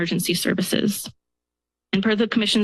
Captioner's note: pause